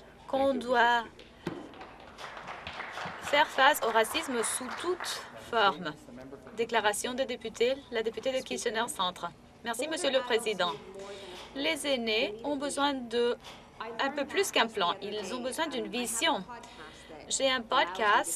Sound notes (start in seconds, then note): 4.6 applause